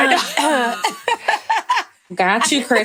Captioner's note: laughing